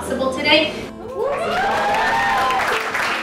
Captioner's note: cheers and applause